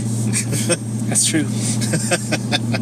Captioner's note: chuckles; laughs